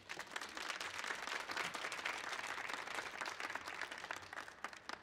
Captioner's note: audience applauding